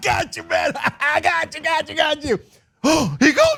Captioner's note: laugh